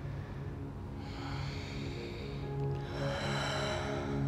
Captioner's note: breathing deeply